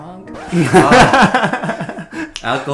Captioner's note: laughs